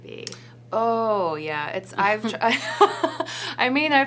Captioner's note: laughing